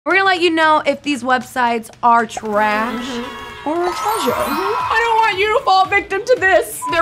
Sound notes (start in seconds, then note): 2.4 children cheering; 4.1 twinkling